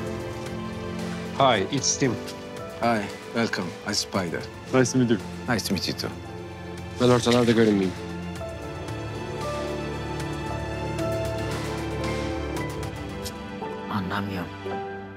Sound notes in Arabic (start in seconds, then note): 1.1 يتكلم الإنكليزية